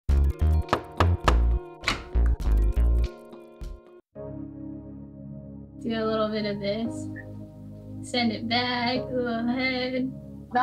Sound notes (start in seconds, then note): 1.8 door opens; 1.8 knocking